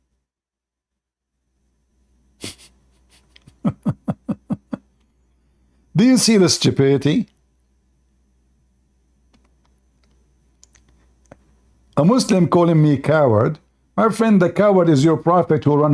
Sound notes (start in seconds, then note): 2.9 Ketawa